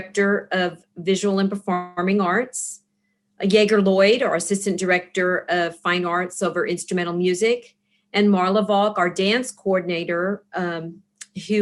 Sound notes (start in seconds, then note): none